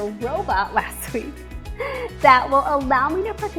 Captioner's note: laughs